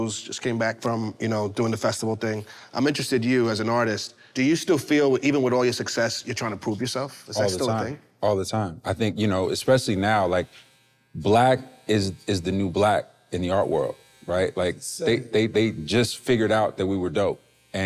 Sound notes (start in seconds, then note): none